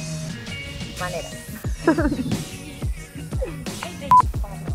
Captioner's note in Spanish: risas